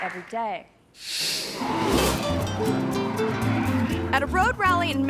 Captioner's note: screen whooshes; gentle upbeat music